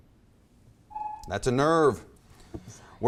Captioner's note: timer buzzes